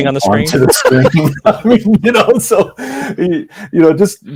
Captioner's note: laughs